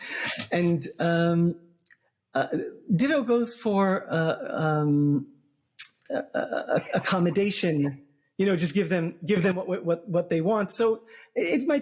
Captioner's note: laugh